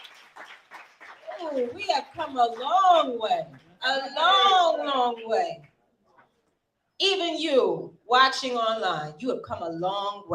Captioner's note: applause